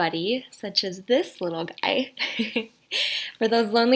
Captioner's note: giggling